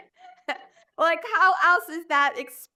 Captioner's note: laughs